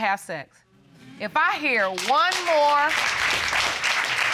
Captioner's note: audience applauds